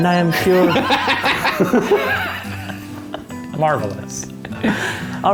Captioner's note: all laughing